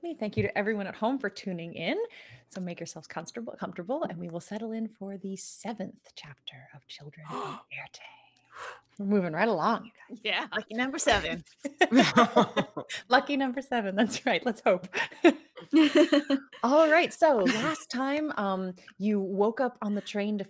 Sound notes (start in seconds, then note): 11.6 all chuckling; 14.9 group chuckling